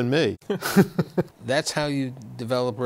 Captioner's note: laughter